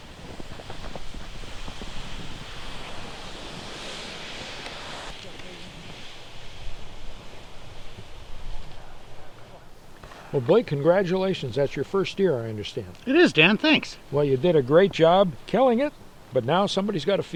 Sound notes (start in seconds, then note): 2.5 deer whooshes over snow